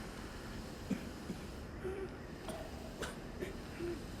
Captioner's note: coughing